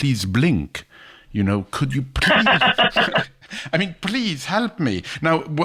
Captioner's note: laughs